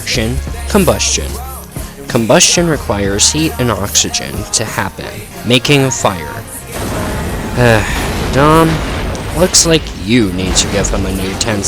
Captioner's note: car exploding sound effect